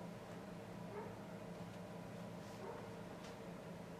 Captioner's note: dog barking